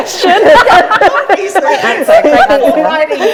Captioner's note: group laughs